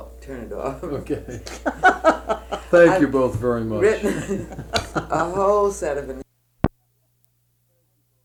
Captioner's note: laughter